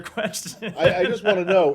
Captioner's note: laughter